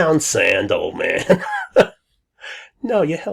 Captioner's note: laughs